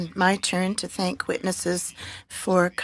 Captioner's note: speaking French